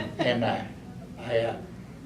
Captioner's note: laughs